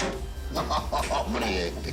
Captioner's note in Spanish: Risas